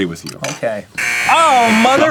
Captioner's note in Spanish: suena el botón de error